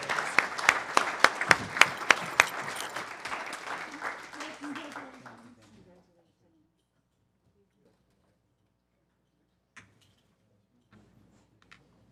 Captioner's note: applause